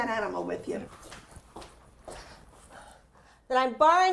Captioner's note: shoes clacking